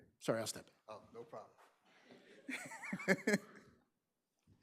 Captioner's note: group laughing